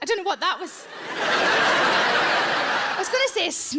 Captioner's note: audience laughs